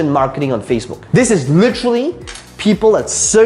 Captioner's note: rattling marker